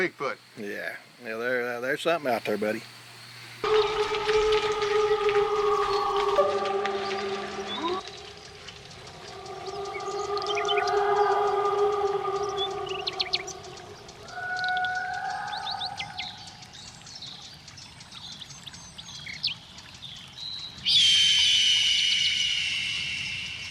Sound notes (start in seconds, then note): 3.6 creature bellowing; 3.7 birds chirping; 5.6 insects chittering; 7.4 creek flowing; 9.2 creature bellowing; 21.0 bird shrieking